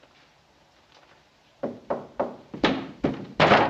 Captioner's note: Knocking; loud pounding on wood